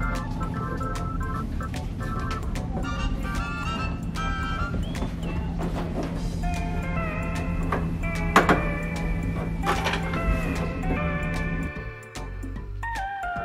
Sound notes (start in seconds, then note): 2.8 creaking; 9.2 clacking